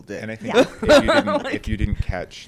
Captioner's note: laughs